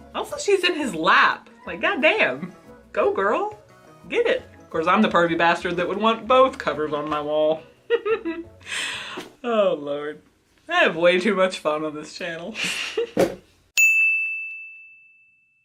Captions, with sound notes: Also she's in his lap. Like goddamn. Go girl. Get it. Course I'm the pervy bastard that would want both covers on my wall. *laughs* Oh Lord, I have way too much fun on this channel. *ding*